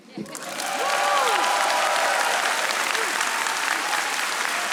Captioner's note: audience applauding